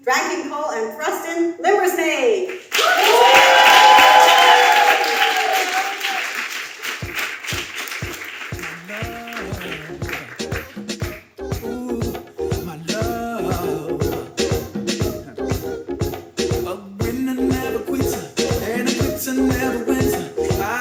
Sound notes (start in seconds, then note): 2.5 audience cheering and applauding; 7.1 upbeat music